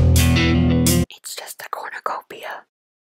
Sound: whispering

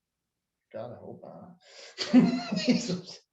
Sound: laughs

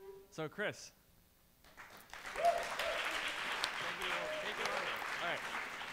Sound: applause

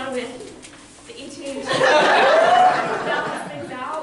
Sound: loud laughter; audience noise

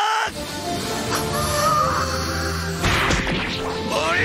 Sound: hamon breathing intesifies

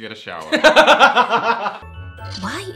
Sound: laughs

